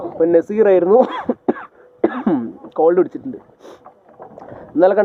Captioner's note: coughing